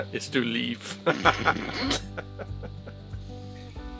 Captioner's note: laughter